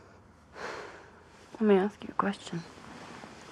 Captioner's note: sighs